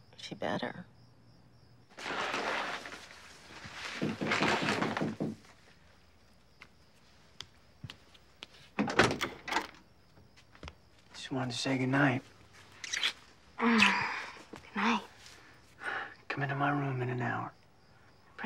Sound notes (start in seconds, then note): 1.9 shower curtain rustles; 4.8 person knocks on door; 6.8 footsteps slosh; 8.7 door clunks open; 12.8 lips smacking